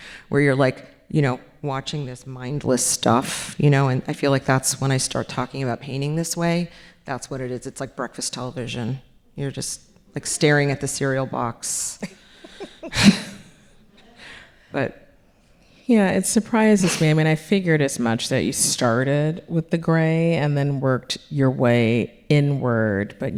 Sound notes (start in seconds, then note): 12.0 laughing; 12.0 chuckles